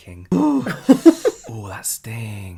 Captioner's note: laughs